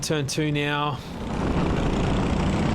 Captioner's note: engine revving